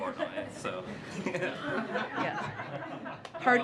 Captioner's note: laughter